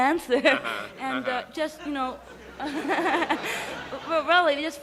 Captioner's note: chuckles